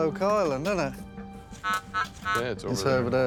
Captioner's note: equipment buzzes